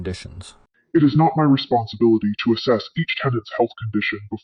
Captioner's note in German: verzerrt